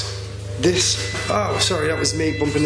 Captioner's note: loud beeping